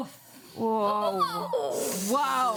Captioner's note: women groaning